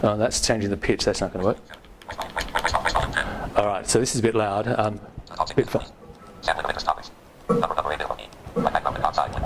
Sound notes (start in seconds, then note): 5.4 rapid robotic speaking